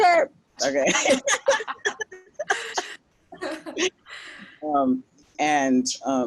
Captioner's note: laughing